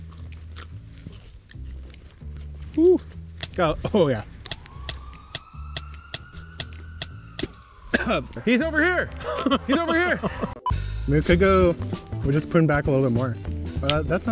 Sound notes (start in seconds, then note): 0.3 pepper crunching; 3.8 ambulance sirens wailing; 7.8 coughing; 9.0 laughing